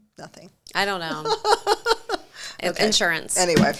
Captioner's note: laughs